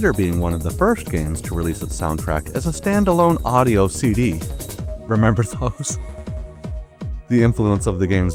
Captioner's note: chuckles